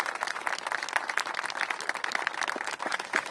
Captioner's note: applause